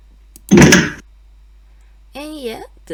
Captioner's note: door opens